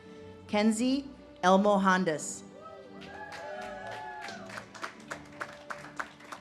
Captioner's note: audience cheers and claps